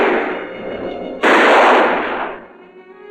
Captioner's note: gun firing; shotgun firing